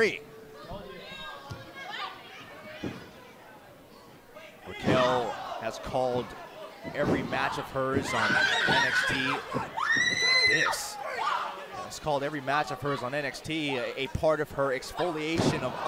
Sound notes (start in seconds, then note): 11.7 crowd chatter